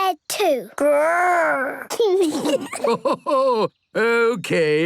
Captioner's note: kids giggling; Grandpa laughing